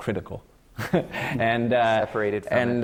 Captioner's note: laughs